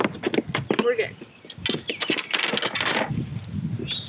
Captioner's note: poles clatter